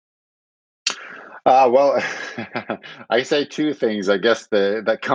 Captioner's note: laughing